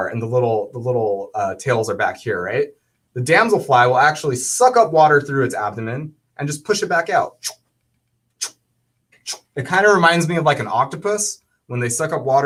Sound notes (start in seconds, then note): 9.1 makes swooshing sound